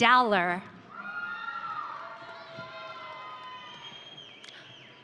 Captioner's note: audience cheering